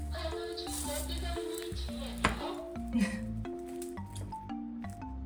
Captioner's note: hahaha